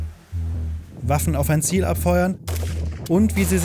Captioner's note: gunshot